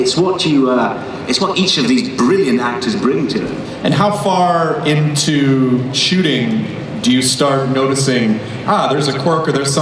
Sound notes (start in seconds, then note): 4.4 voiceover